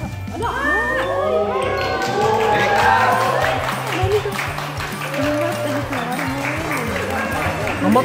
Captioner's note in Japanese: 歓声